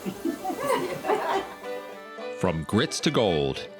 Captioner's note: laughing